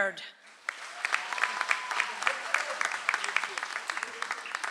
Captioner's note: audience applauds